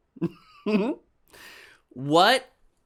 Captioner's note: chuckles